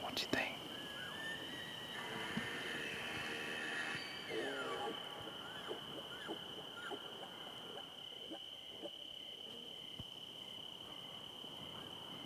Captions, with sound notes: What do you think? (elk bugles)